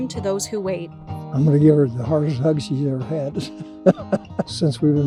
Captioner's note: laughs